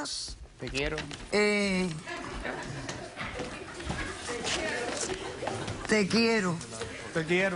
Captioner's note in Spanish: Risas